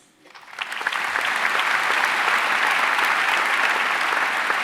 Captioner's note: audience applauding